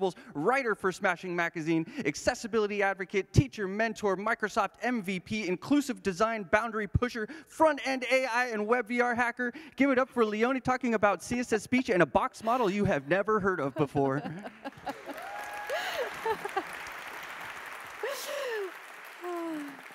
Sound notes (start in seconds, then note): 17.2 applause; 18.2 laughter